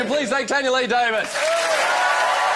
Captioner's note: cheering and Applause